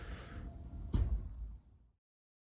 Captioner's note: car door closes